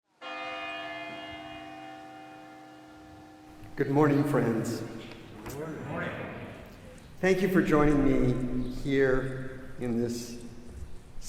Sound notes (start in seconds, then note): 0.1 church bell rings; 5.0 crowd